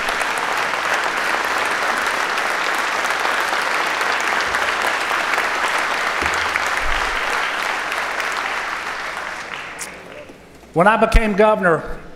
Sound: applause

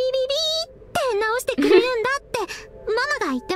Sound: chuckles

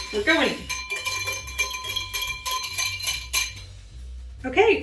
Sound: whisk clinking

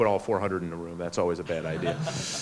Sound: laughs

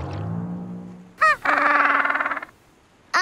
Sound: squawking

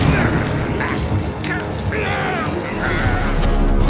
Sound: both grunting

